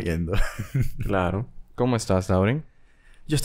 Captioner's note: laughs